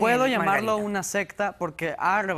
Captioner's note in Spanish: Hablan al unísono